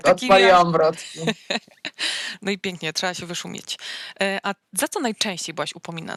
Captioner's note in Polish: śmiech